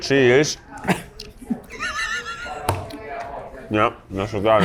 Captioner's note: laughs